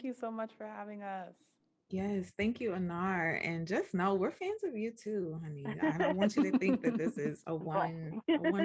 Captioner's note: laughter